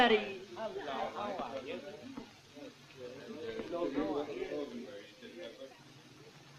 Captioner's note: general chatter